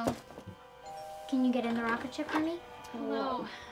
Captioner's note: doorbell rings